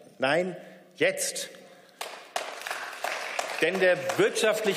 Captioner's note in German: Beifall